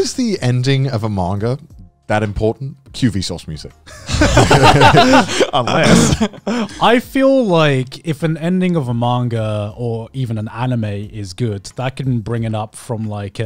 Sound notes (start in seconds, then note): 3.9 laughing